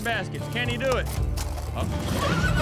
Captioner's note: shouts; horse neighs